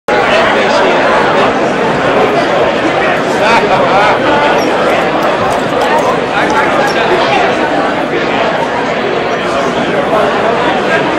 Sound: audience murmuring

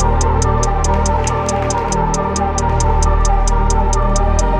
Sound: audience clapping

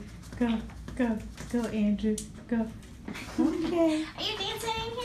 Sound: laughter

